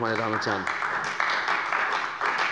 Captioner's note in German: Beifall bei der CDU